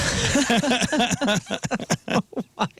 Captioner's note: laughter